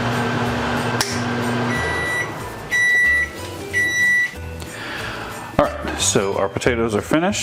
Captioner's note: snap